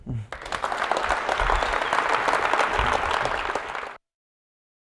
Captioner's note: applause